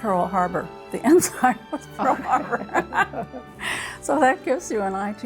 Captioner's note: laughs